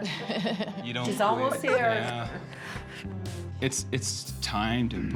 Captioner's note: chuckles